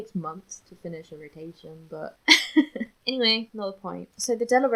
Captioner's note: laughs